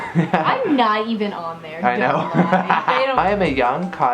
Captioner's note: laughs; laughs